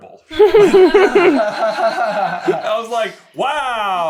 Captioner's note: laughter